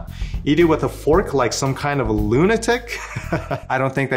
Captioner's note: laughs